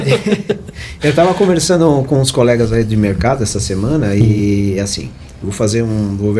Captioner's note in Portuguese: risadas